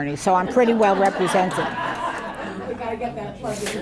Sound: audience laughing

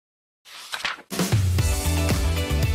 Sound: page flips; theme Music

